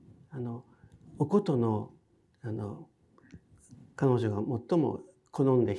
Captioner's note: speaking in foreign language